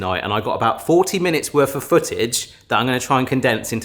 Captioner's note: none